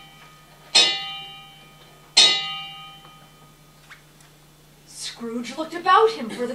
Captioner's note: 12 chimes